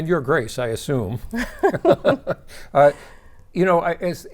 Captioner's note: both laughing